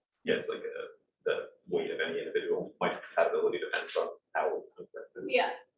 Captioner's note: student speaking faintly off mic